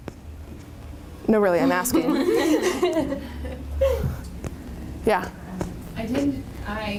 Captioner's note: laughter